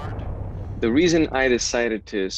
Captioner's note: engines rumbling; normal voice